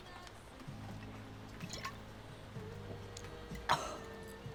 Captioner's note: Marva coughs